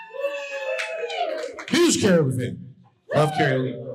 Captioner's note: audience cheering